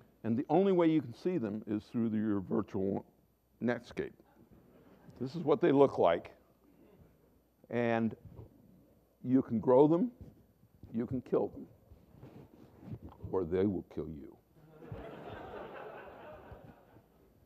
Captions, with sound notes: and the only way you can see them is through your virtual netscape. This is what they look like, and you can grow them, you can kill them, or they will kill you. [Laughter]